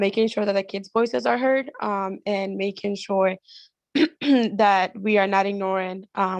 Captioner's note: cough